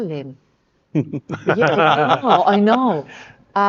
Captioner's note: speakers laughing